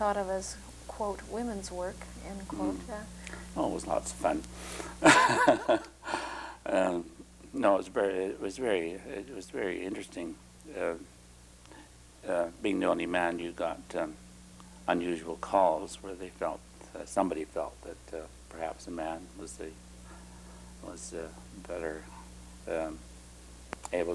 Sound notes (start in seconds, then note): 5.0 laughter